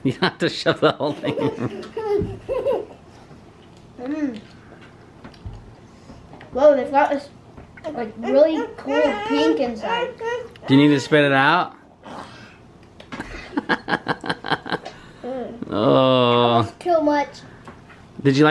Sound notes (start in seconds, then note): 0.8 laughs; 9.5 whines; 13.2 laughs